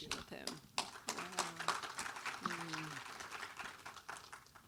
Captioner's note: audience applauds